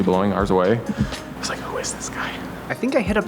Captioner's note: whispers